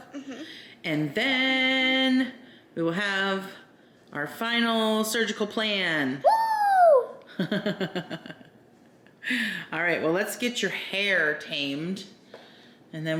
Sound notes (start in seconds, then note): 6.2 exclaims; 7.3 laughs